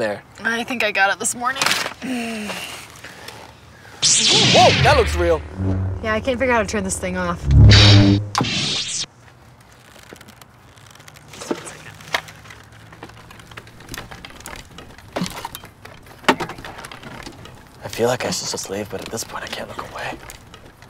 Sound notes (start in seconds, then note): 4.0 lightsaber turns on; 8.1 rummaging